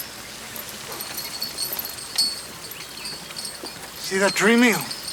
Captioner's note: chain rattles